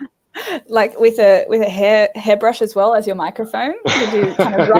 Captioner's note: laughing